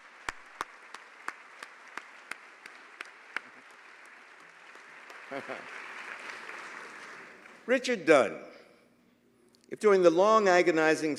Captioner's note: applause